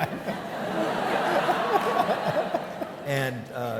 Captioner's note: audience laughing